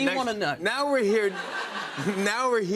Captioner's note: laughter